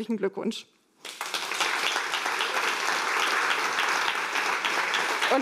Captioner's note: applause